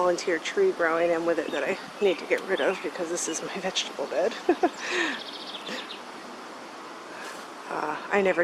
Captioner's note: laughs